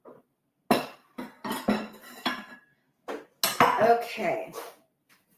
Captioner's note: plates clatter